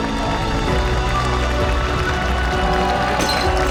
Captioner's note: applause and cheering